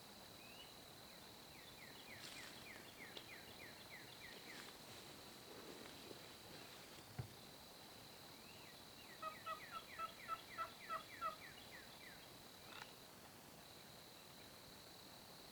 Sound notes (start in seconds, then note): 9.2 turkey yelps